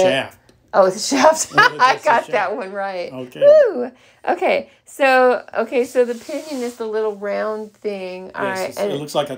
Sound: laughter

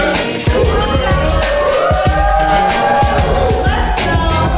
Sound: people cheering

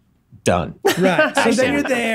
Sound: laughs

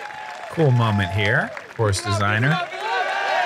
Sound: applause

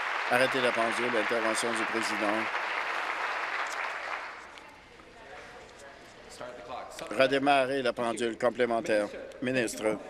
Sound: applause

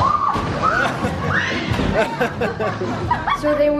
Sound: squealing; laughing; chuckling

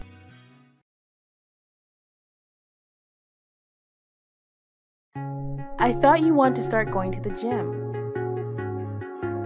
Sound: silence

